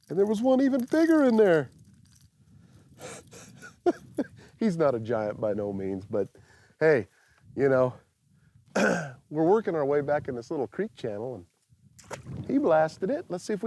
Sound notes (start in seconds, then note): 3.0 laughs; 8.7 clears throat